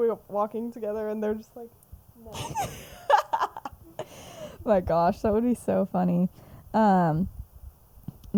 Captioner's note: laughs